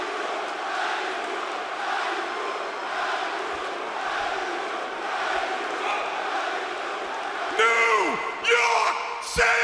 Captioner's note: fans chanting